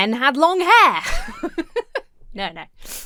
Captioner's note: laughs